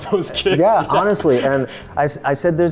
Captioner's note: laughing